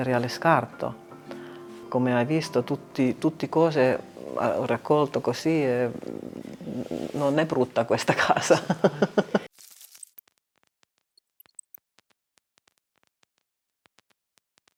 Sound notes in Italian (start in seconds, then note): 11.1 risate